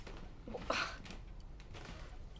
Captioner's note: VANESSA SlGHS